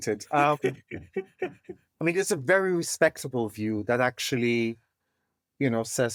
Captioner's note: laugh